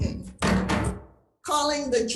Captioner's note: gavel bangs twice